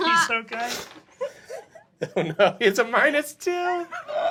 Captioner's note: laughs